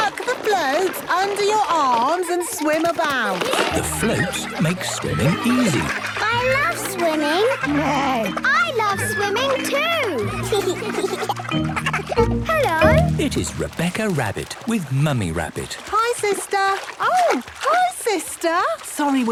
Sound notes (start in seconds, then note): 8.0 neighs; 10.8 giggles